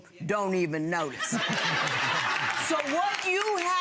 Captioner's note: audience laughs